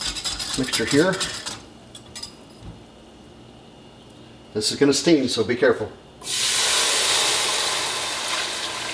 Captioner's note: sizzle, steam, steam